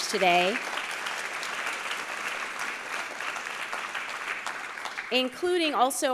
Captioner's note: applause